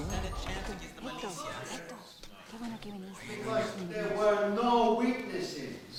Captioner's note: overlapping chattering; speaking in foreign language